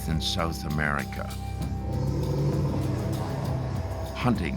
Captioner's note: animals growling